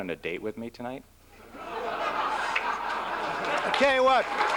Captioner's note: laughter